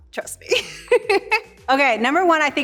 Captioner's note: laughs